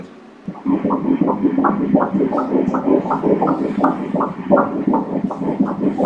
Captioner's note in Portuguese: batimentos cardíacos